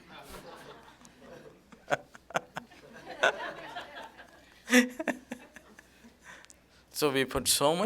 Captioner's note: laughter; laughs